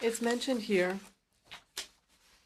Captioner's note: speaking in French